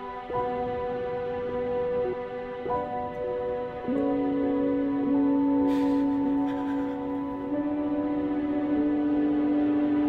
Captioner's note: soft crying